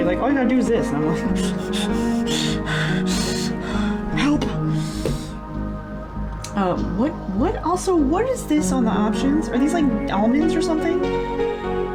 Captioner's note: nervous noises